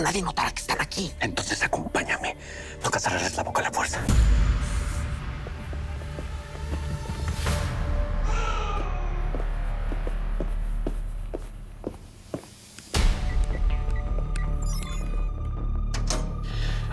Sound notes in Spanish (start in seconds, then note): 10.1 Quejidos; 15.7 Pitidos